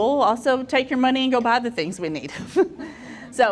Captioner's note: chuckles